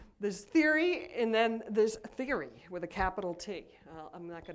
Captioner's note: none